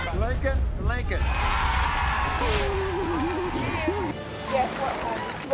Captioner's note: audience yells